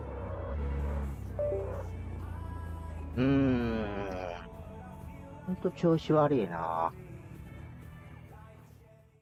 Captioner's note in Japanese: シフター切断アラーム音